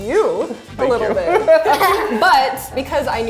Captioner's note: laughs